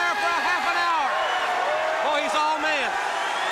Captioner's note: crowd cheering